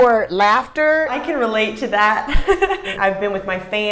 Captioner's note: laughing